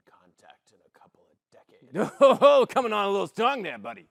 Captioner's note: gruffly